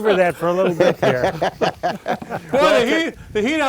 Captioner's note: laughing collectively